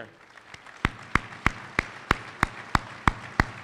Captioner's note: applause